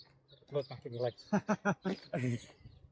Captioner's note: laughter